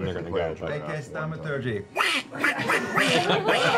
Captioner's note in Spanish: grazna